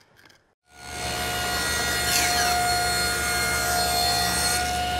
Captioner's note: machine running